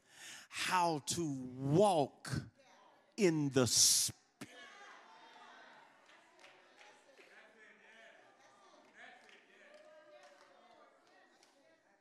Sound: congregation cheering

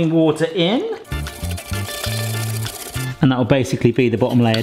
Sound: whisk rattling

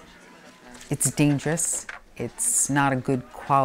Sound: paper rustling

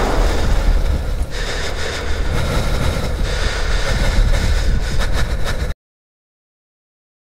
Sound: bang!; heavy breathing; silence

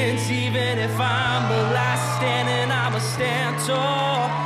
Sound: cheering

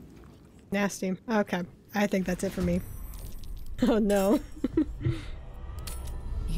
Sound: laughs

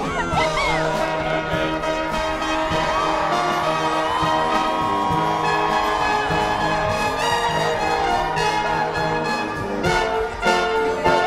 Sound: applause

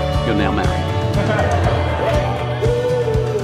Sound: audience laughing

